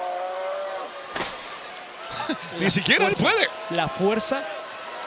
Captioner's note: laugh